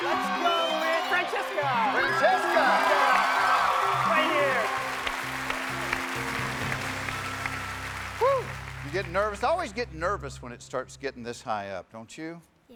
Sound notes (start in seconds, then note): 7.7 cheers and applause